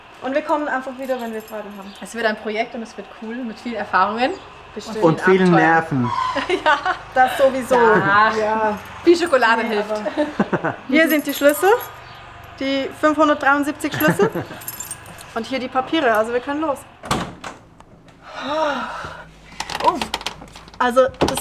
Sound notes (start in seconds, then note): 10.0 laughter